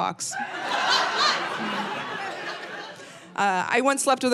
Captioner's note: audience laughing